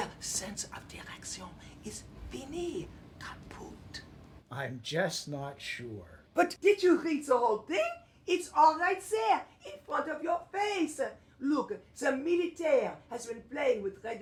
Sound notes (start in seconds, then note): none